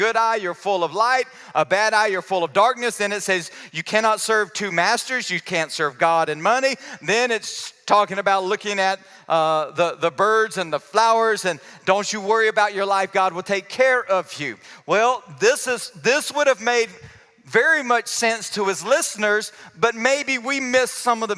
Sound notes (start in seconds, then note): none